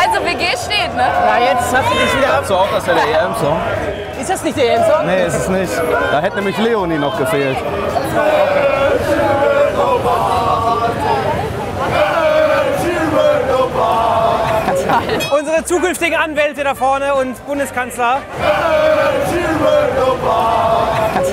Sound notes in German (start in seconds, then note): 2.3 Gemurmel, Fangesänge